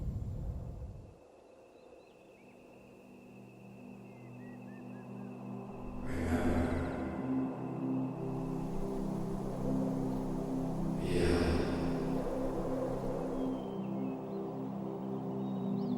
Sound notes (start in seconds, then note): 1.6 birds chirping; 1.6 mellow music